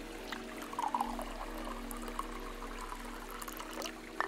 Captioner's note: tea pours